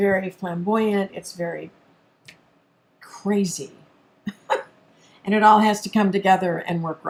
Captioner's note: laughs